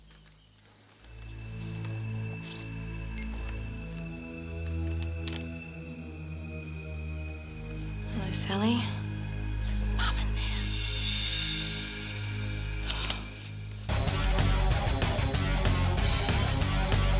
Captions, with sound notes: (suspenseful music) (recorder beeps) Hello, Sally, it's his mom in there. (Jodie sighs) (heavy metal music)